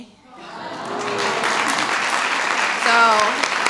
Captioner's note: applause